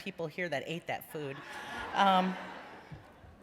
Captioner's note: laughter